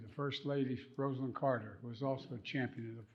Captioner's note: none